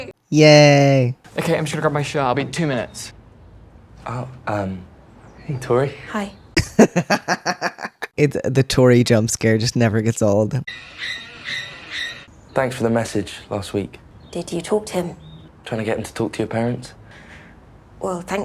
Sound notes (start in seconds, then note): 6.5 laughter; 10.4 horror violins